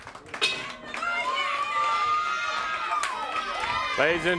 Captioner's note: crowd cheering; bell ringing; crowd chatter